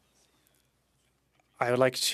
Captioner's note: speaking French